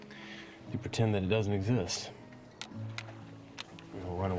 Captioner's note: sunglasses clattering